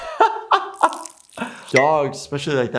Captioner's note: laughing; pee trickling